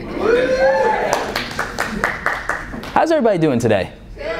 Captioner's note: applause